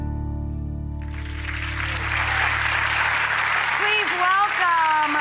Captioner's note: audience applause